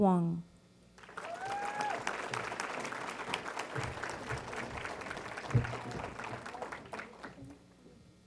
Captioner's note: applause